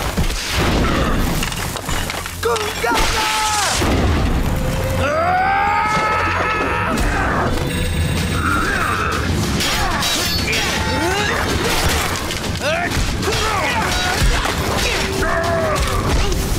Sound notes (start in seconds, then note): 4.4 grunting